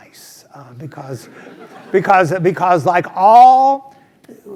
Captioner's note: laugh